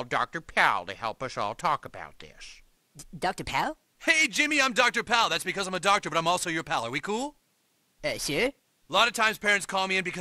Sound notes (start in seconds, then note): none